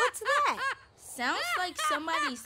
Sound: screaming

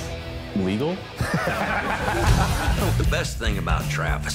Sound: laughter

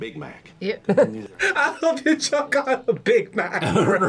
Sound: laughs

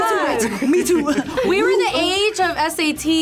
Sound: laughs

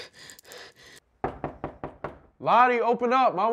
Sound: heavy Breathing; knocking

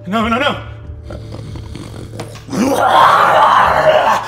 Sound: snarling; growling

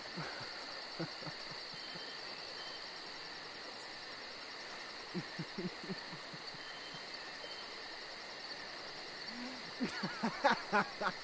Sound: laughing

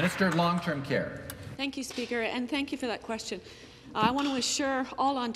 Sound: some Applause

